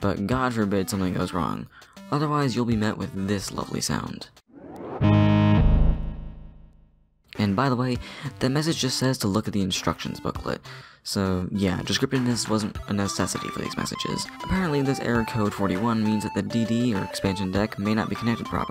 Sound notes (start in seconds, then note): 4.6 harsh, low-pitched noise